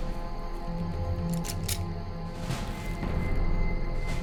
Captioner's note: grappling hook rattles; suspenseful music